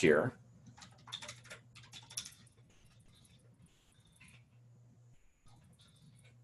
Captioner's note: typing